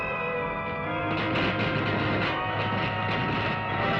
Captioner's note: electricity Crackling